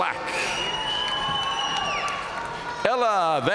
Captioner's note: audience cheering and applauding